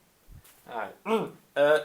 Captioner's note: clears throat